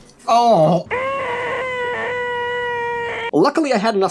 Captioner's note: crying